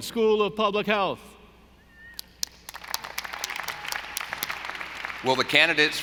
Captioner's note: audience applauding